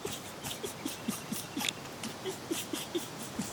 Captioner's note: laughing